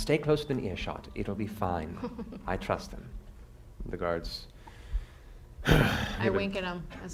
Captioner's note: sighs